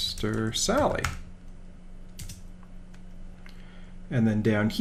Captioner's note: typing